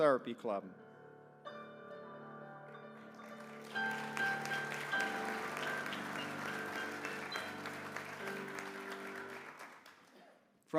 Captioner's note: applause